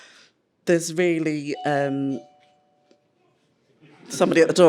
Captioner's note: doorbell